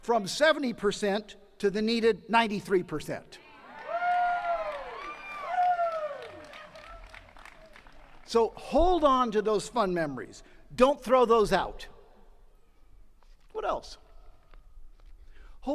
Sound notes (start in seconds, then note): 3.4 attendees cheering and clapping